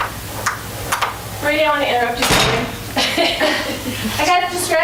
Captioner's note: chuckles